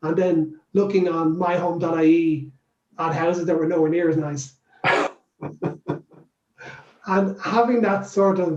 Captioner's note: laughs